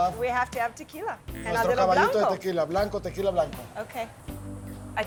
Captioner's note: speaking Spanish